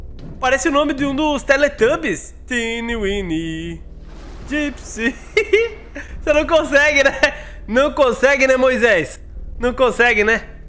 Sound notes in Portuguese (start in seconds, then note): 5.0 risos